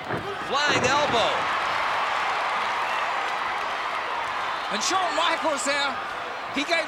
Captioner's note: applause